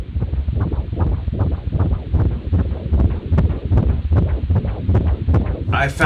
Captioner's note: heartbeat